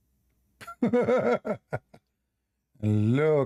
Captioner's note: Ketawa